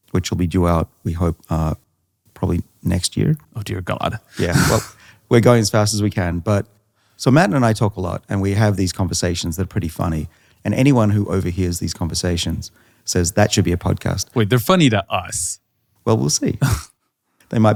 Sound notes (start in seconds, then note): 4.3 laughs; 16.6 laughs